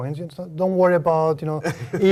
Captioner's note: laugh